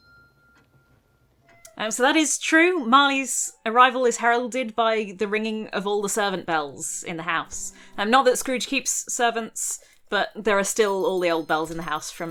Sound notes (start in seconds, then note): 1.5 bell rings